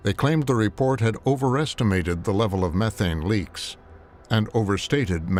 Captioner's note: none